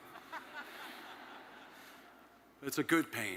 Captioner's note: attendees laughing